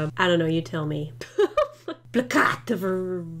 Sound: laughs

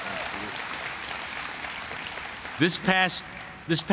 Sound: applause

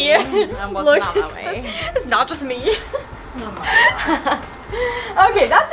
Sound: laughs

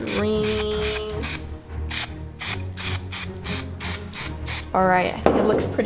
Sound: spray paint oozing

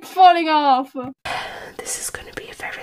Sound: sighs

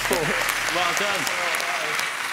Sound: applauding

